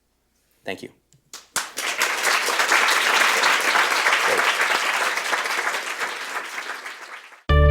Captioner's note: clapping